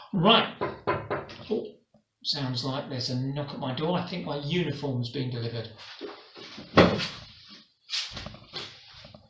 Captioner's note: knock at the door